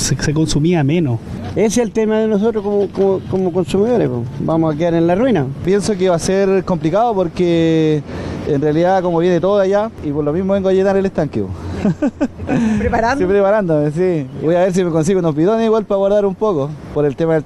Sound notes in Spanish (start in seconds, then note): 11.8 risas